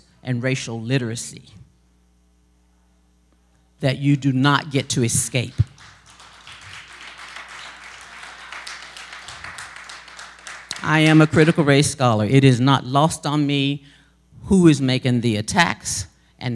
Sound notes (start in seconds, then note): 7.0 applause